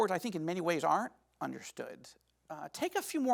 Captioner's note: none